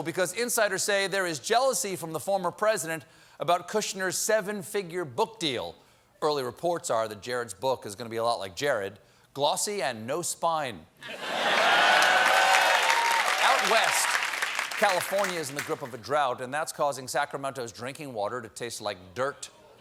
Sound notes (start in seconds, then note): 8.5 applause; 8.5 laughter